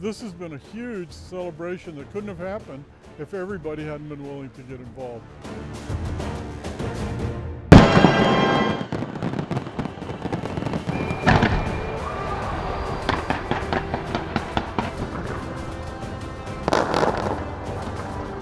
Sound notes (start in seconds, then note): 7.7 fireworks